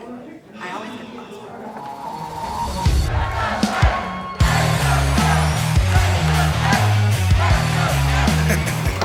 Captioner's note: crowd cheering; laughing; door closes